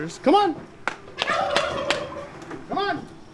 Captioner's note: turkey gobbling